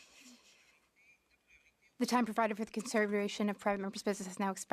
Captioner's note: speaking French